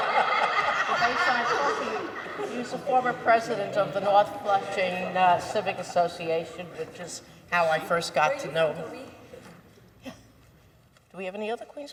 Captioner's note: laughter